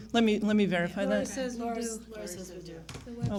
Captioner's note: chatter